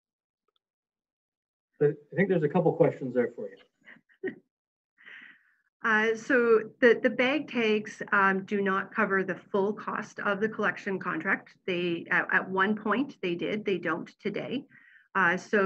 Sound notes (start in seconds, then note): 2.2 chuckles